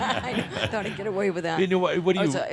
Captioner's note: they chuckle